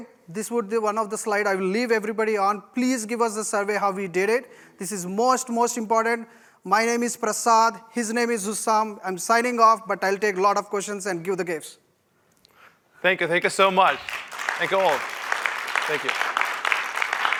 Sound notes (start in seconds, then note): 13.5 applause